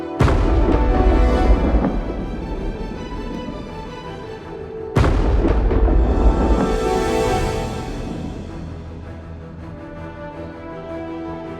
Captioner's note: thunder